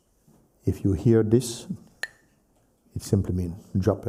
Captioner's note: clacks the sticks